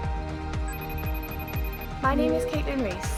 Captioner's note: phone rings